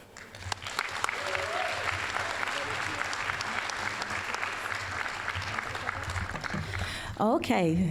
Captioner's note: applause